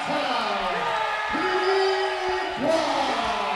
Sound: cheering

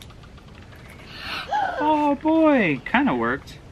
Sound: gasps

